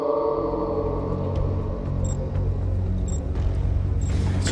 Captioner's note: beeping